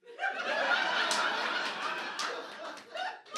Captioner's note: audience laughter